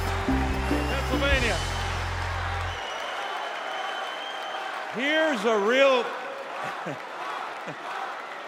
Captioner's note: cheers and applause